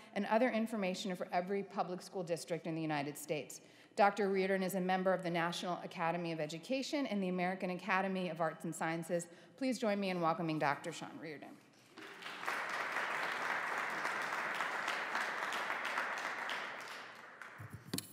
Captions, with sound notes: and other information for every public school district in the United States. Dr. Reardon is a member of the National Academy of Education and the American Academy of Arts and Sciences. Please join me in welcoming Dr. Sean Reardon. (audience applauding)